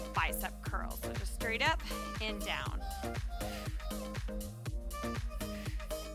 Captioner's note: exhales